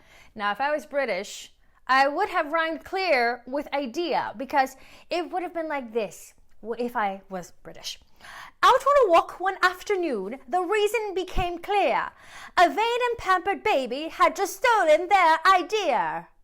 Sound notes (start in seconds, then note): 8.4 in british english